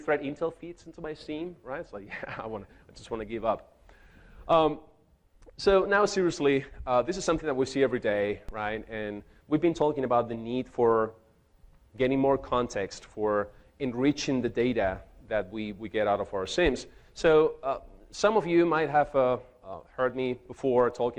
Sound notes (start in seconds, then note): 2.0 chuckles